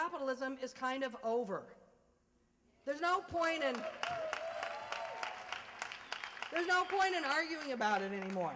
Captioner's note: applause